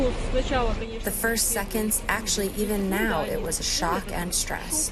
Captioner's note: through translator